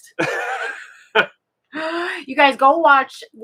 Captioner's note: both laughing